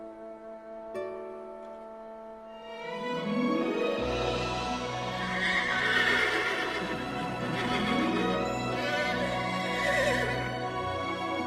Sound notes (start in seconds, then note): 5.2 neighing